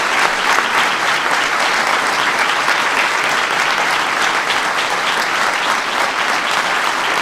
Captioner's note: applause